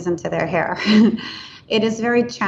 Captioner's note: laughs